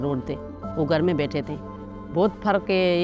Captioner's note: in Urdu